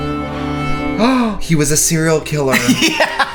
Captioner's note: gasps